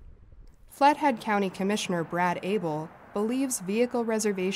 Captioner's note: voice-over